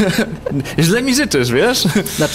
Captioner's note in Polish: śmiech